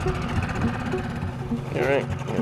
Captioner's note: boat engine running